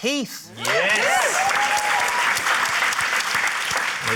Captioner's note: cheering, applause